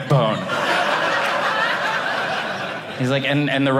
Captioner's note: audience laughing